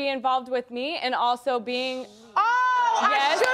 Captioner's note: audience booing